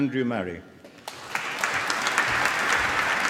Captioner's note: applause